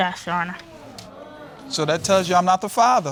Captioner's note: audience exclaiming